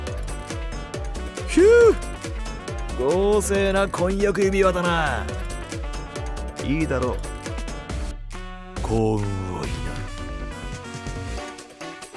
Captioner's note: whistle